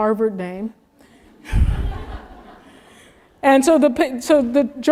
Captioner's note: laugh